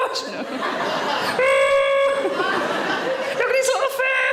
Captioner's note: audience laughing